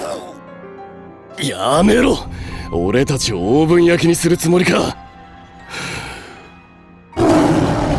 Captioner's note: inhales